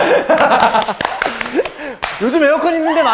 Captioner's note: applause